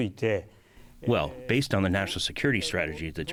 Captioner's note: through translator